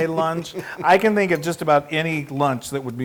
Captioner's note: laughs